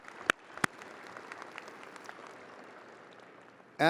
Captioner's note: audience applauding